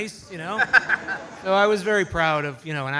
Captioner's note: audience laughs